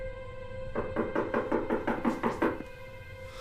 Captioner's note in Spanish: Ruido al tocar la puerta